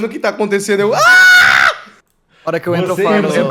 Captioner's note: high-pitched scream